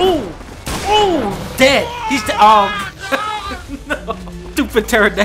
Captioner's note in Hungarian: Nevetés